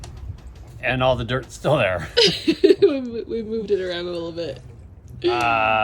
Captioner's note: laughing